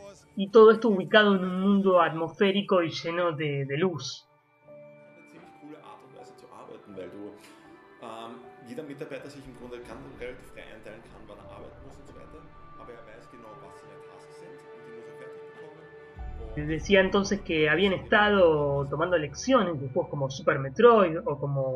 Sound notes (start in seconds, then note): 5.8 speaking german